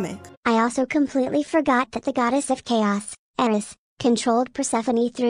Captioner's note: robot voice